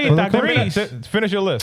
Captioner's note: speaking In Foreign Language